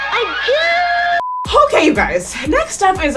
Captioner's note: beep